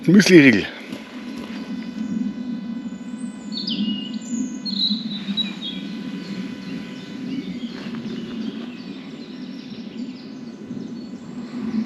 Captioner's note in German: Vogelgezwitsche